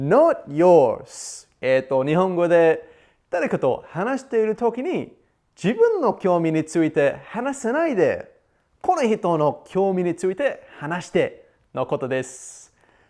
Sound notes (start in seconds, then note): 1.7 explains in Japanese